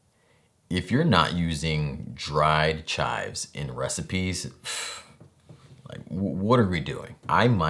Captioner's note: deep breath